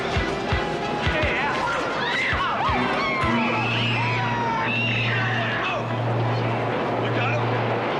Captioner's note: screaming